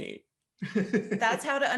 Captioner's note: laughs